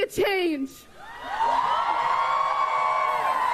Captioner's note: cheering and applause